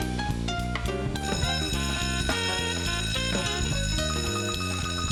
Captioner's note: bell rings